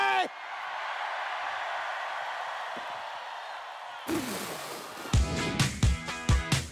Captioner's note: shouting